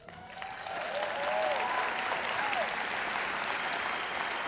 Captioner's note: applause